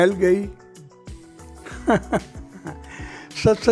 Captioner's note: laughing